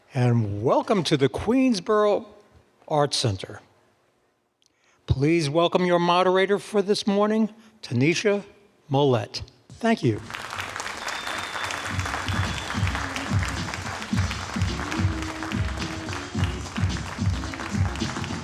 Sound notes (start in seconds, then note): 11.1 audience clapping; 13.2 upbeat music